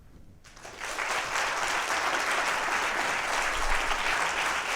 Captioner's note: applause